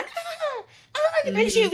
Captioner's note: laughing